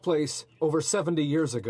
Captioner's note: speaking French